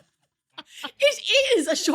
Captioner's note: laughing